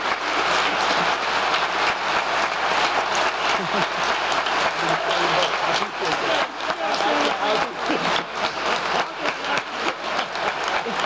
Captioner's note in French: applause